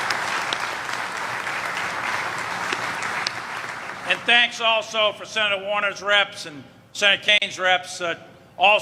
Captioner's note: applause